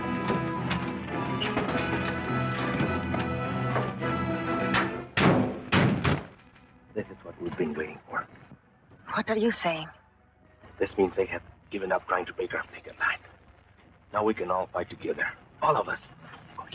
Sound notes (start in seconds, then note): 4.6 car doors thud